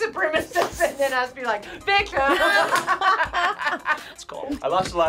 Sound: laughs

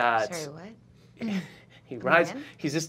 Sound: chuckling

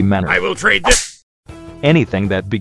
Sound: bitch-smack

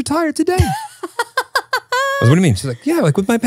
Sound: laughing

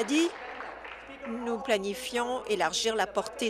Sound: applause

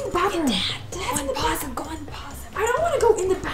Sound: whispers

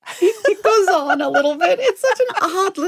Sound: laughing

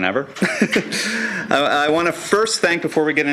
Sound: laughing

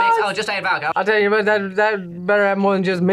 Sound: speaks gibberish; as Boomhauer; speaks gibberish

